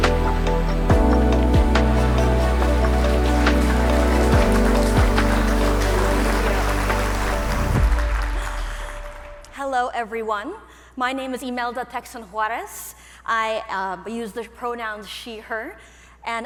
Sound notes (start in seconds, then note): 4.2 audience applauding